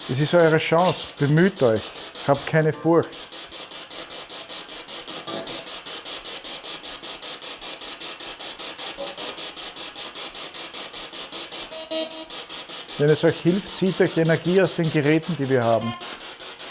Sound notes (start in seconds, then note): 3.8 noise of the spiritbox in the background